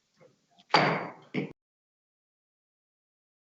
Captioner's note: gavel bangs